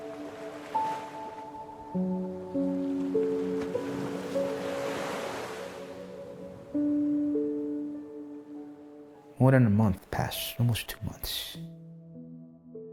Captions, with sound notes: (gentle music continues) (waves crashing) More than a month passed, almost two months,